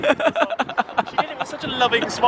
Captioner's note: laughing